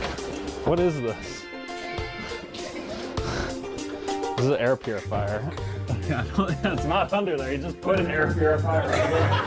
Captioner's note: audience laughter